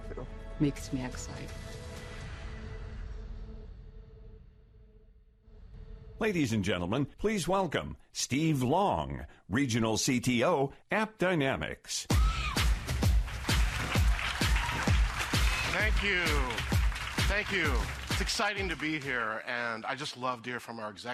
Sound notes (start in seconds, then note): 12.1 upbeat music; 14.3 applause